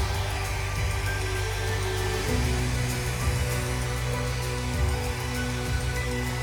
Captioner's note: machine whooshing